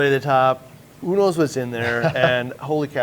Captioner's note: chuckles